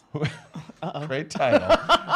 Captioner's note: laughs